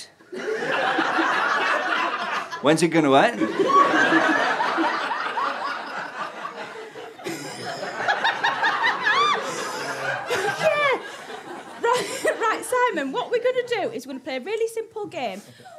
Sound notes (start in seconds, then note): 0.3 audience laughter; 3.4 laughter continues